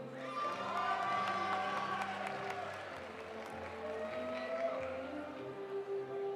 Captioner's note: audience cheering; audience applauding